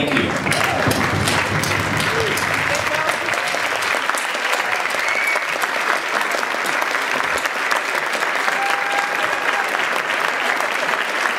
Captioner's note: applause